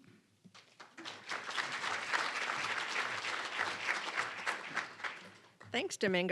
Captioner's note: applause